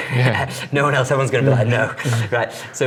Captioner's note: laughs